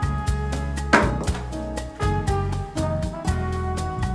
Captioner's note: gentle music; soap bounces